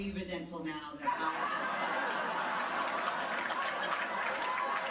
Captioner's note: audience laughing